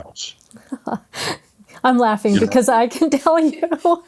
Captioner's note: laughs